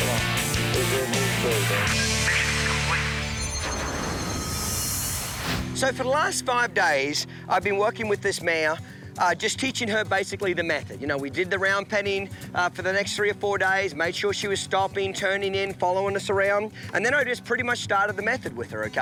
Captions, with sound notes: (air whooshing) - So for the last five days, I've been working with this mare just teaching her basically the method, we did the round penning for the next three or four days made sure she was stopping turning in following us around. And then I just pretty much started the method with her.